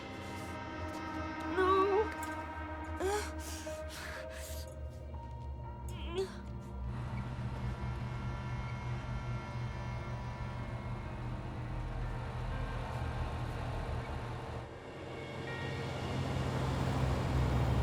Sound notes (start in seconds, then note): 3.0 breathing heavily; 5.8 groans